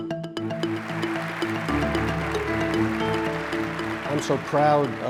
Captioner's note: audience claps; upbeat pop music